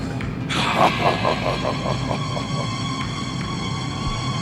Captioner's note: Black Scorpion laughing; ominous instrumental music continues